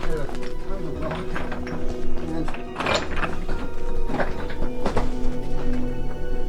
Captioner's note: gravel crunching